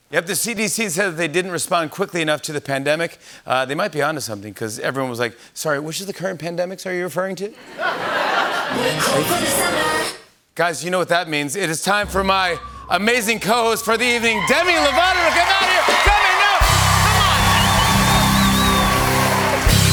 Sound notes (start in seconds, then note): 7.6 laughter; 17.6 cheers and applause